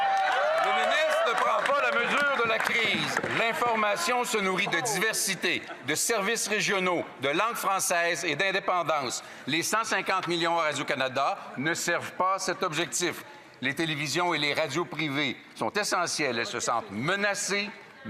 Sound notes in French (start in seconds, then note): 4.2 rires